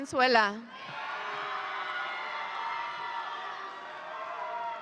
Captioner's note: audience cheering